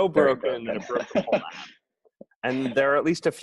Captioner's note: laughing